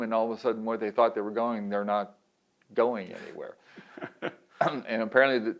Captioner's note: laughs